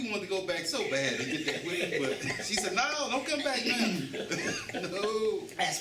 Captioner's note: laughter